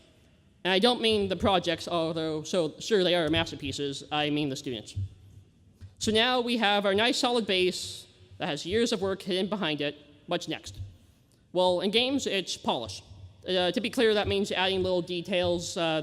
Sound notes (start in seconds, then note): none